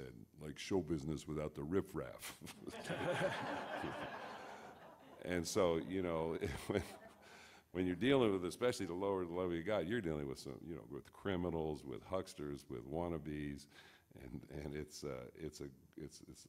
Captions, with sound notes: He said, like show business without the riff raff. (audience laughs) When you're dealing with, especially the lower level, you're dealing with some, you know, with criminals, with hucksters, with wannabes.